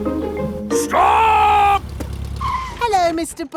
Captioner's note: brakes squeal